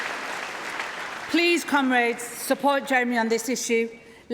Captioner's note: applause